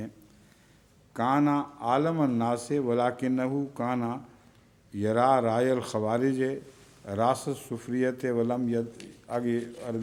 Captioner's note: Arabic